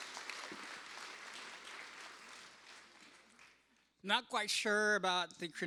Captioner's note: applause